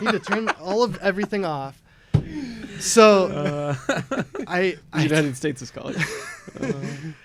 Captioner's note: laughter